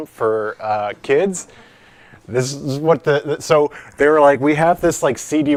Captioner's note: light laughter